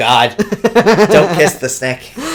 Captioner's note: laughs